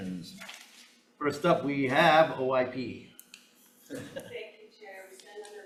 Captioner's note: chuckling